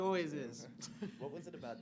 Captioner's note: laughs